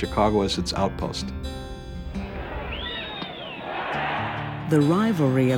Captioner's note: cheers as Bat Hits Ball